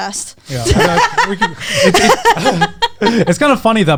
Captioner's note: all laughing